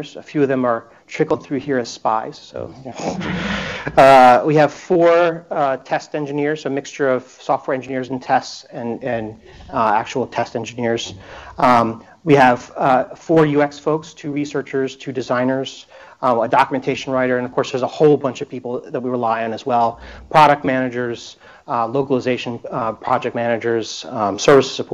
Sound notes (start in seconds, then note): 3.1 laughter